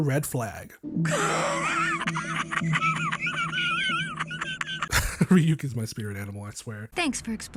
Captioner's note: Ryuk laughing